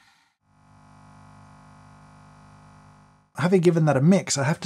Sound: coffee machine whirring

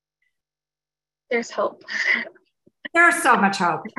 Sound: laughs

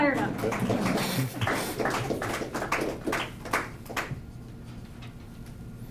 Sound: scattered applause

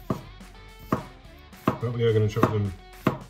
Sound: chopping

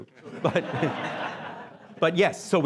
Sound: laughing

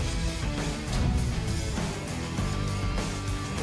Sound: boom

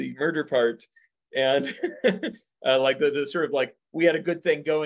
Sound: laughs

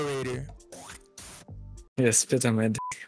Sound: spits

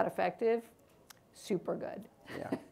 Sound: laughs

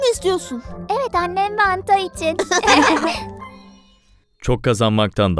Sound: laughing

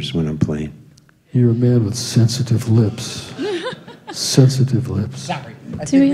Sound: laughter

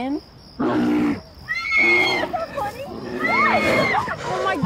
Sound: bear roars; girls scream

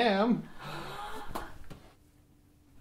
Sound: gasps all around

